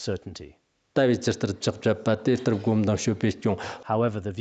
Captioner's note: citing scripture in Tibetan